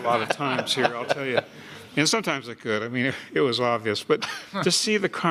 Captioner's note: laughter